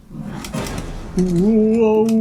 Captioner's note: groaning